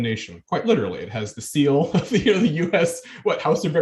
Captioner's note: chuckling